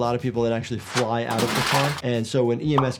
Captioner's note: person clatters